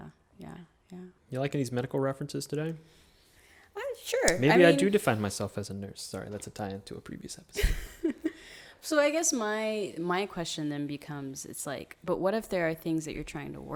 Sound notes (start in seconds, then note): 7.6 chuckles